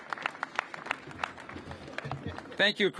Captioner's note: applause